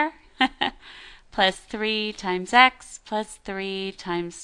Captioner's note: laughs